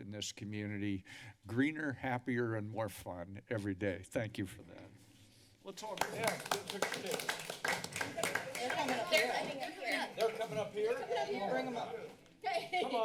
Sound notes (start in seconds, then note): 5.8 applause; 8.4 background conversations